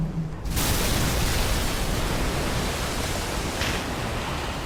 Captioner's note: water crashes